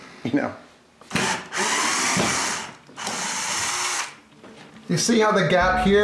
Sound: electric screwdriver buzzing

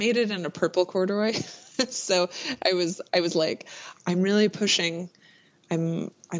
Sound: laughs

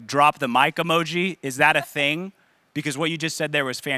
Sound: laughing

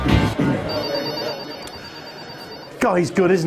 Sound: phone ringing

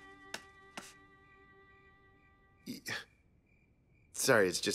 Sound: footsteps click

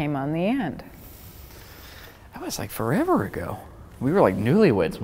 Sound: inhaling

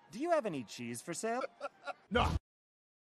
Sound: chuckles

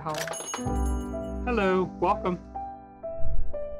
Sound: bell ringing

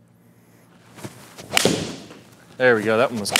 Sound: golf ball strikes wall

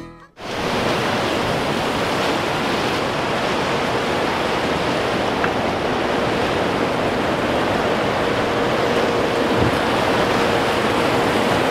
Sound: water sounds

